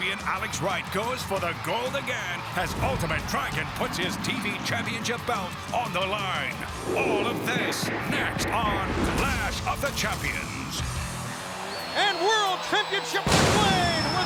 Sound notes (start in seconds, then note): 6.1 graphics whooshing; 9.8 graphics booming